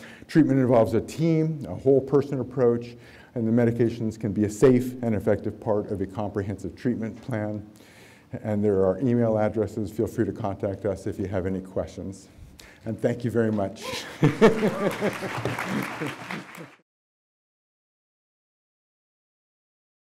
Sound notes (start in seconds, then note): 13.8 laughing; 14.3 crowd applauding